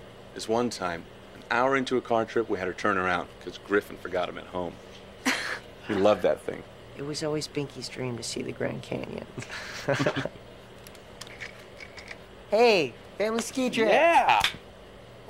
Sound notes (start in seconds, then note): 5.2 Caitlin chuckles; 9.4 both giggling